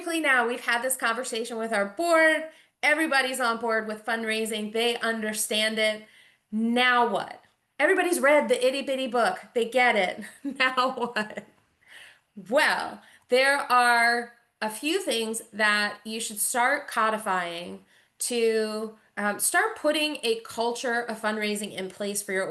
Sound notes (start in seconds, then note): 10.3 chuckles